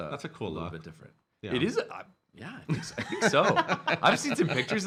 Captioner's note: laughing